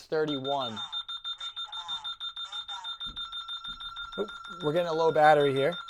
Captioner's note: beeping